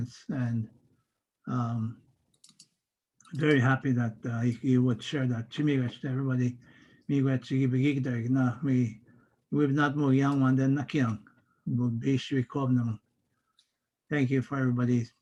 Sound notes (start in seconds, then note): 7.0 foreign language